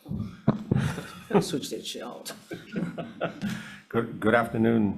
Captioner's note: laughs